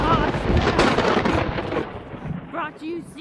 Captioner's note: thunderclap